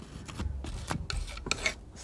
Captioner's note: scratching